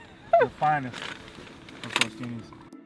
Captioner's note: laughing